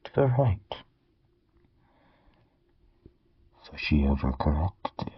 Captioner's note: silence